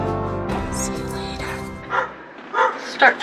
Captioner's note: whispered